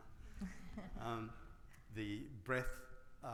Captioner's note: laughs